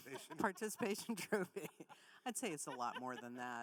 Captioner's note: laughs